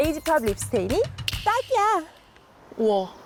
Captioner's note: perfect match sound effect